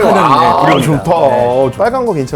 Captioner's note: sigh, Sigh